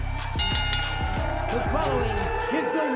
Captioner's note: bell rings